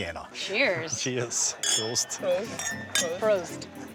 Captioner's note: clinking